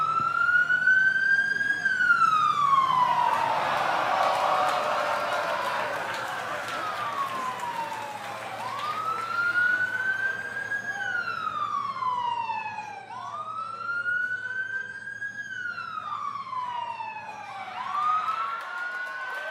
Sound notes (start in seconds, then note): 3.9 crowd cheering